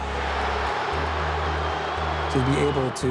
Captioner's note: crowd booing